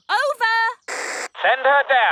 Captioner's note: walkie-talkie crackles